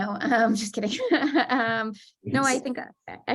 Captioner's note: laughter